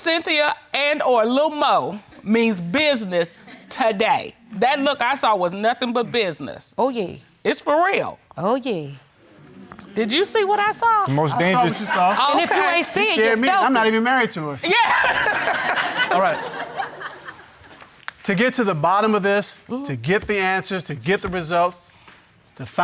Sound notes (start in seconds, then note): 14.6 laughing